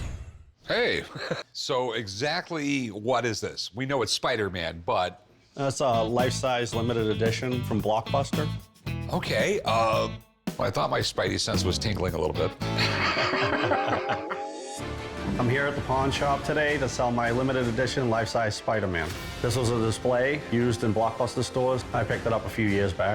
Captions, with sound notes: Hey. So exactly what is this? We know it's Spider-Man, but... - It's a life-size limited edition from Blockbuster. - Okay, um... Well, I thought my Spidey sense was tingling a little bit. [both laughing] - I'm here at the pawn shop today to sell my limited edition life-size Spider-Man. This was a display used in Blockbuster stores. I picked it up a few years back.